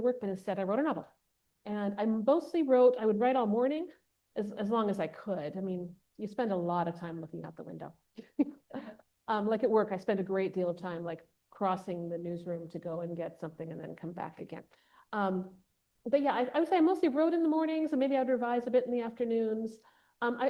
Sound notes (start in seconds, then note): 8.2 chuckles